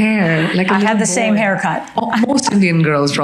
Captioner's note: chuckles